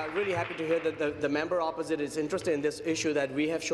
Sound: applause

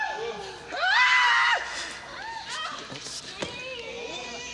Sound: crowd squealing

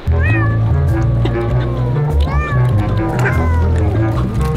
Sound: cat meowing, comical music

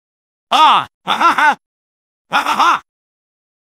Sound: fake surprise and laughter

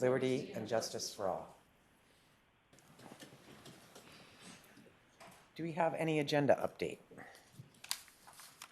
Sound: reciting the pledge of allegiance

